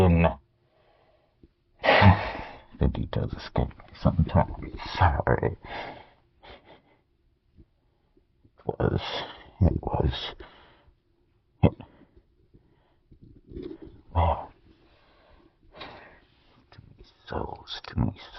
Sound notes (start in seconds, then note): 10.8 silence